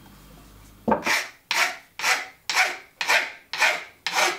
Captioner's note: rough filing noise